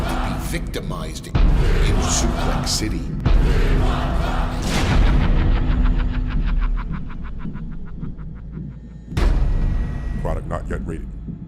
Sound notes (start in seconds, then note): 3.4 chanting; 5.0 evil laughter